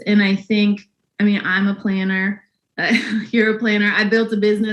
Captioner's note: laughs